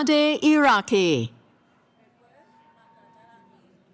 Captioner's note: cheering